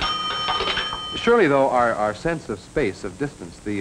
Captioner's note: phone rings